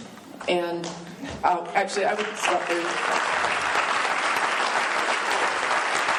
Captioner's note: applause